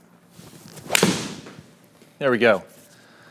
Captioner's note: golf club thwacks